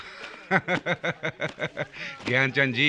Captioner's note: laughing